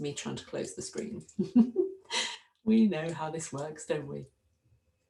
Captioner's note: laugh